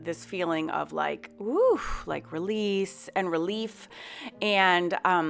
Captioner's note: sighs